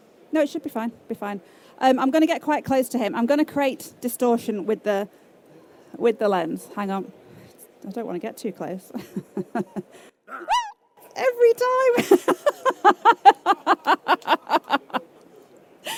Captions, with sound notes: No, it should be fine. Be fine. I'm going to get quite close to him. I'm going to create distortion with the with the lens. Hang on. I don't want to get too close. (yelps) every time.